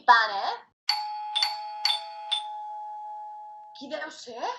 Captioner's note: doorbell rings